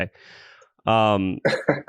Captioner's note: laughs